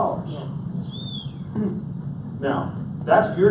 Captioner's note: audience member whistles